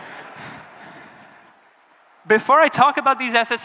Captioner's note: laughter